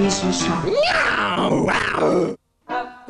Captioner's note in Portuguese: rugido